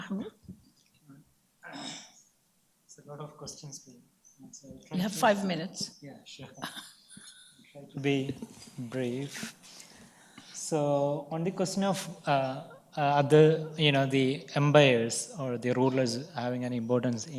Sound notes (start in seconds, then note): 6.6 laughs